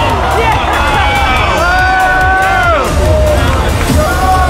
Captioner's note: crowd cheering